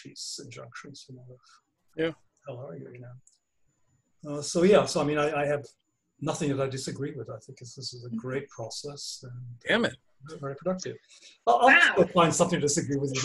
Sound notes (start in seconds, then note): 12.2 laugh